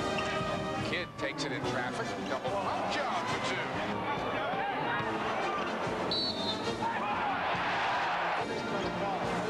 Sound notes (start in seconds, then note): 6.1 whistle; 6.5 cheering